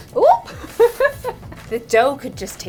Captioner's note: laughing